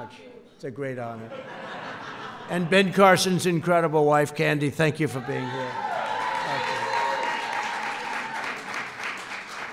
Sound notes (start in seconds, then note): 1.2 laughter